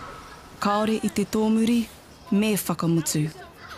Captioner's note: speaking in Maori language